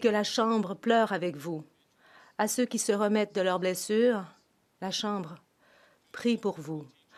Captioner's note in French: voix de l'interprète